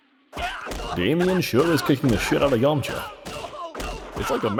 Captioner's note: repeated screams; repeated screaming